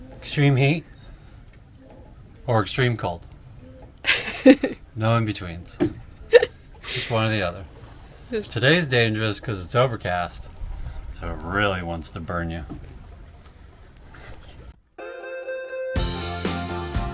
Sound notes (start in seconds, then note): 4.0 laughs